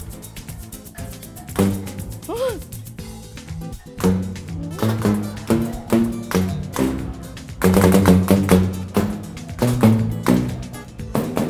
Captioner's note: banging